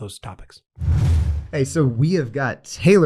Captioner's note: air whooshes